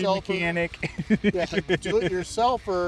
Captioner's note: laughing